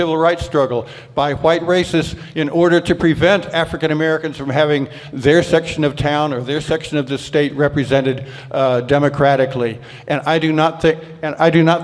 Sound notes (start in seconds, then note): none